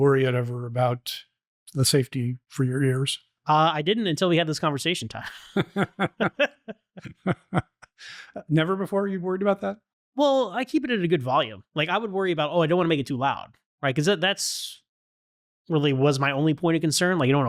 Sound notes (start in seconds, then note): 5.2 laughter